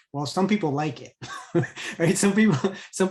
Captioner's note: chuckles